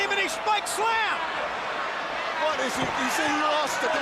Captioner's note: crowd cheering; crowd chatter